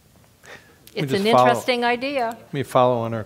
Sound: laugh

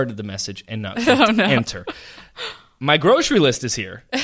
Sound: laughs

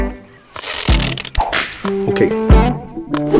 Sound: suspenders snapping; upbeat country music begins

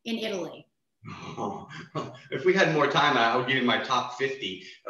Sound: chuckles

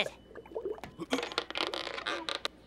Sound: creaking

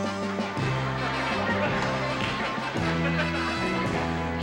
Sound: audience laughing

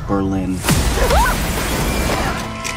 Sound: shrieks

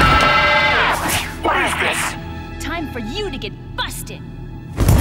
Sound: both scream; Sam shrieks

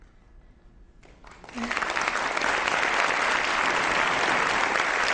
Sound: audience applause

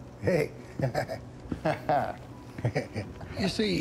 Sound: chuckling

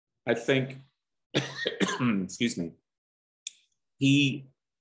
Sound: coughs

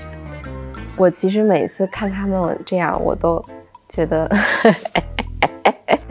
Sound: chuckles

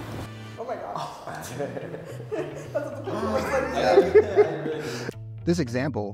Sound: laughter

